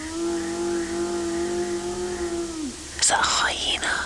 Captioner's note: sustained yowl